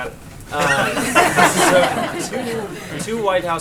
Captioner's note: laughter